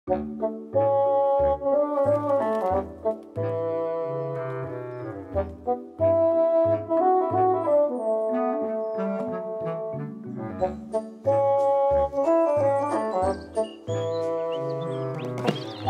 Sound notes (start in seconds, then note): 2.1 birds tweeting; 14.9 birds tweeting